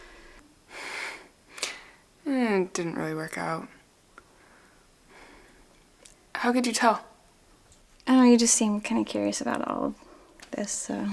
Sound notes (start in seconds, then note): none